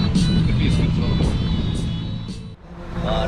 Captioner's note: wind